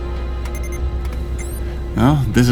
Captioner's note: system beeping